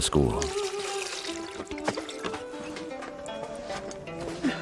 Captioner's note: splashes